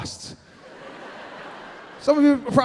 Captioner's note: audience laughing